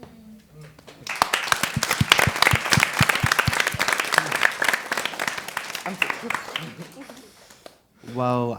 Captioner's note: applause